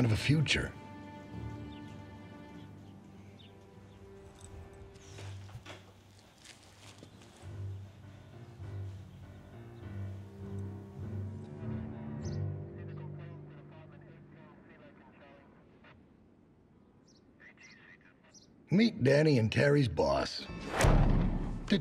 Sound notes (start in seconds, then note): 5.6 door opens; 12.0 police radio chatter